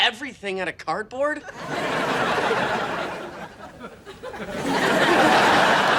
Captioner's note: audience laughing